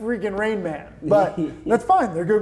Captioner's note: laughing